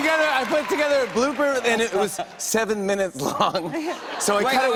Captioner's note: laughter